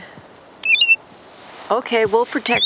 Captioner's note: bird calls